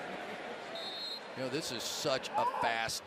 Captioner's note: whistle